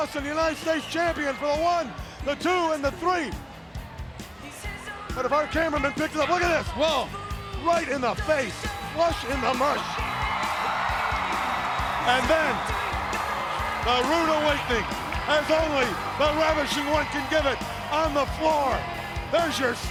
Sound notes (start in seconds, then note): 10.5 crowd cheering